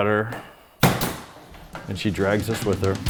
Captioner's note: stapling